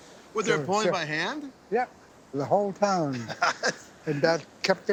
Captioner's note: laughs